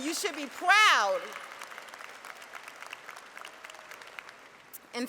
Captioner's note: applause